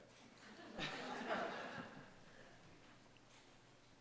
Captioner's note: audience laughs